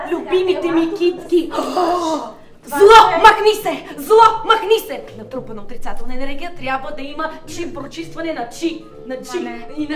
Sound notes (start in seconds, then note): 1.5 gasps